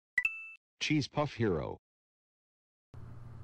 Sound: ding

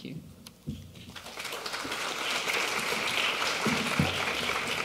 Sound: applause

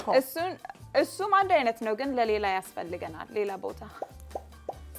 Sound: speaking Amharic

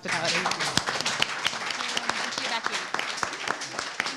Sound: audience applauds

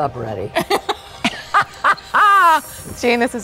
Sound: laughing

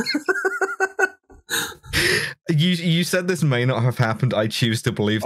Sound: laughter

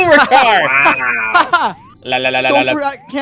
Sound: laughter

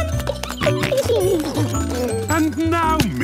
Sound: giggling, snorting

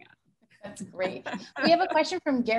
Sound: laughing

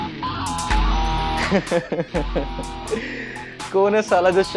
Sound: laughing

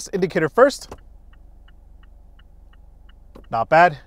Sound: indicator beeping

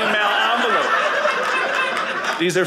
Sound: audience laughing

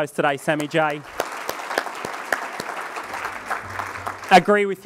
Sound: crowd applauding

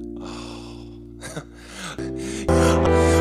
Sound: coughs

